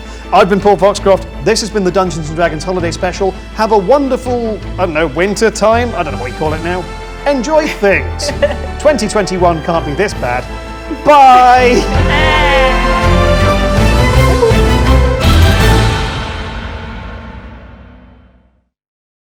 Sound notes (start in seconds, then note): 0.8 dramatic orchestral music; 10.9 cheers; 13.5 dramatic orchestral music continues